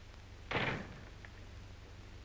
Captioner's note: door closes